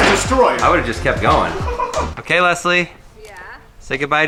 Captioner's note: laughing